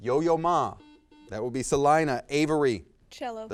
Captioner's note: buzz